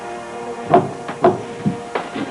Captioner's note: knocking at door